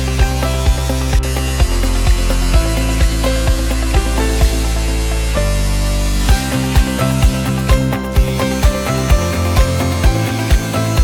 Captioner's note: metal grinding